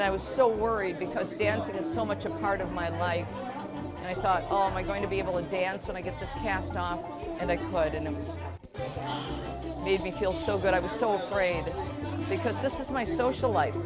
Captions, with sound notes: and I was so worried because dancing is so much a part of my life. And I thought, oh am I going to be able to dance when I get this cast off? And I could and it was (sighs) it made me feel so good. I was so afraid because this is my social life,